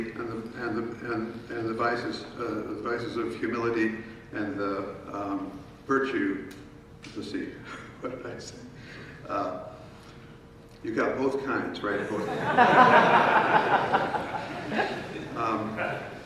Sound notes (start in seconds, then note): 10.3 laughs; 11.9 audience laughing